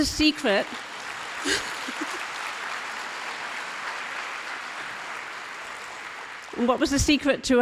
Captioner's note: applause